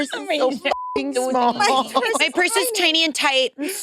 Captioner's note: participants chattering